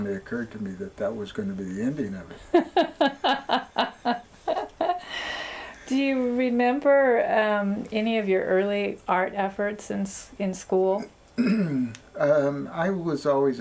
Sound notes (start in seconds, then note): 4.8 laughs